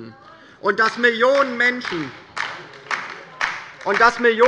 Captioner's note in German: Beifall bei der LINKEN